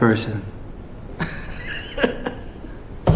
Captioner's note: Laurie chuckles